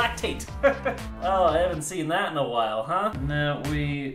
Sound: chuckles

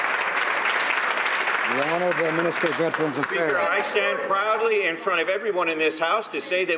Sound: some Applause

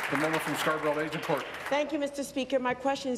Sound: applause

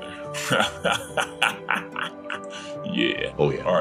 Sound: maniacal laughing

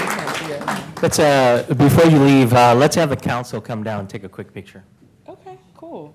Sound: applause

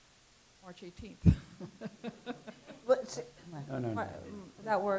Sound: chuckles

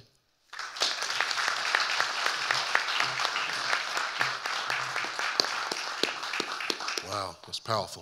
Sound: audience applauding

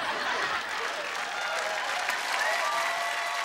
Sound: applauding

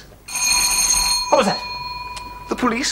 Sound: bell rings

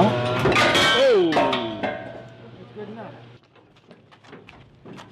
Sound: clanging

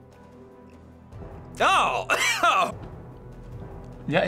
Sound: coughs

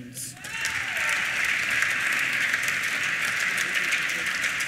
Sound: applause

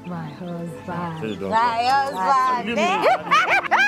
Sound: both speaking in foreign language; woman giggling

